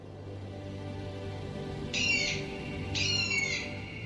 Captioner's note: bird cawing